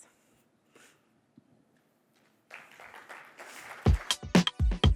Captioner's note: applause